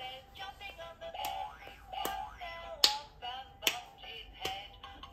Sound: clapping with excitement

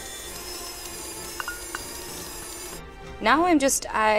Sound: whirring; tapping

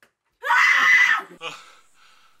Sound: screaming

